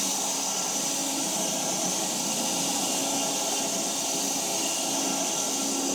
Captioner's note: log saw whirring continues